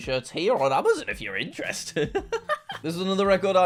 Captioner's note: laughs